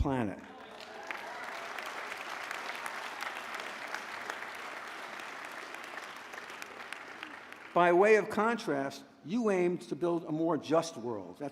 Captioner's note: applause